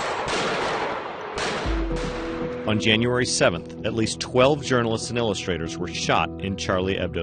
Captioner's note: gunshots